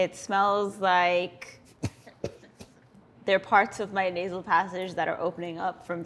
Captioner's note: coughs